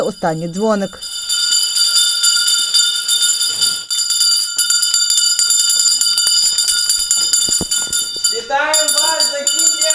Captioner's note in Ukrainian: Лунає дзвоник